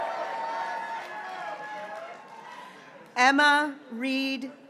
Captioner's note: graduates cheering